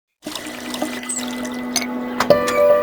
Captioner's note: water splashing; upbeat music